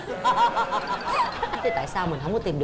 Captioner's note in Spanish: risas